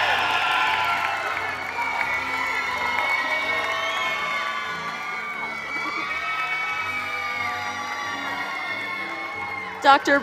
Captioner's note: applause